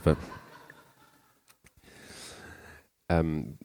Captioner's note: laughter